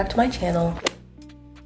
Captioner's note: golf hit sound effect